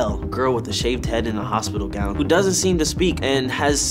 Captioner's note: none